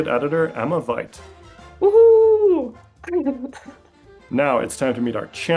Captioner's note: laughing